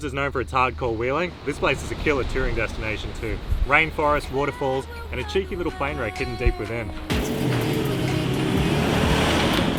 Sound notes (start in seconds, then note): 7.1 engine revving; 8.5 peaceful music